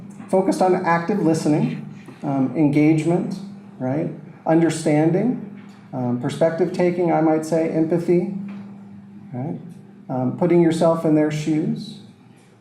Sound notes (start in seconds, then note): none